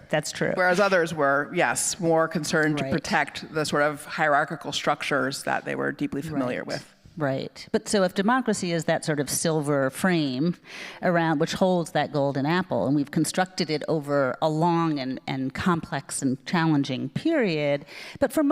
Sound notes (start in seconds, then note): none